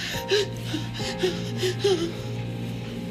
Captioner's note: crying